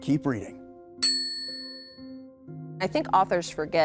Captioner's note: sound dinging